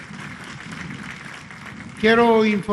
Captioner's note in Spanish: aplausos